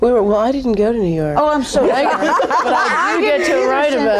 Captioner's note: ladies laughing